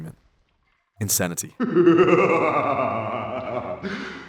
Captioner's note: Cortex Laughs